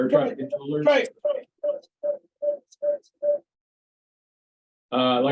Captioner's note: audio feedbacks